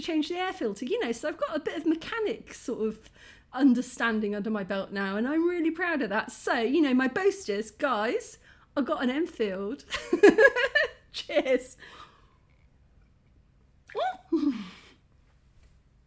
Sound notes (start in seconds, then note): 13.7 laugh; 13.7 squeak